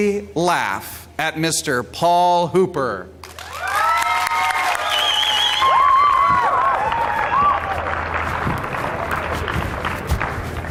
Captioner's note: applause